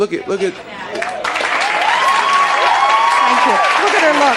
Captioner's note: audience cheering drowns out speaker